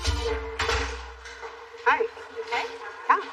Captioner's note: door clickshut